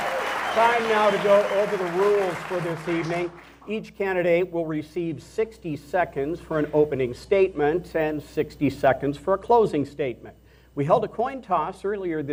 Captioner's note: applause